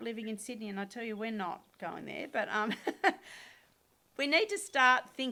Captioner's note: laughs